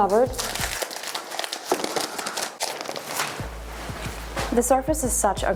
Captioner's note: plastic scrunching